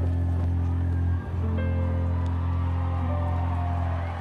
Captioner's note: people cheer